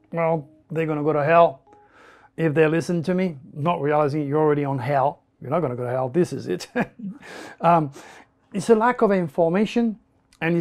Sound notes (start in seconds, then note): 6.7 laughs